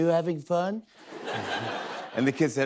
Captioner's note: laughter